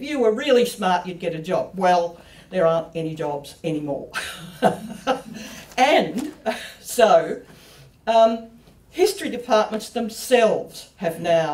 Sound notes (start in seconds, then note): 5.4 laughs